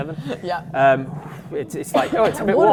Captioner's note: whoosh